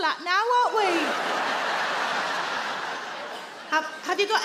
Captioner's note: audience laugh